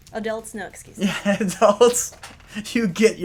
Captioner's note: laughter